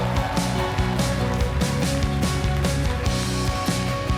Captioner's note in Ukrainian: оплески